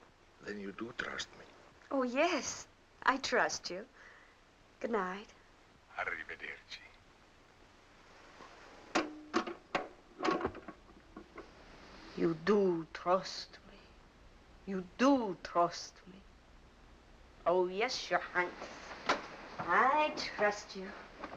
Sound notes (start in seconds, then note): 12.2 imitating Mr. Imperium; 17.4 in normal voice